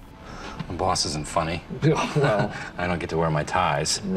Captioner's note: laughs